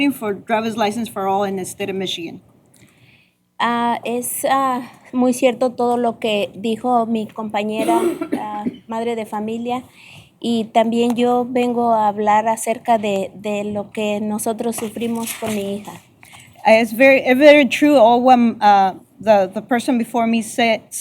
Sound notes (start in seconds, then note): 3.4 speaking spanish